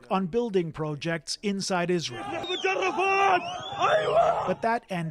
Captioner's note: speaking alternate language